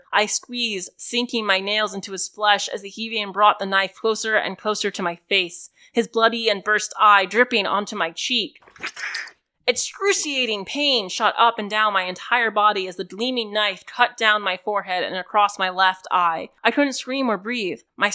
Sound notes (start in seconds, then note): 8.7 claws piercing flesh and knife piercing an eyeball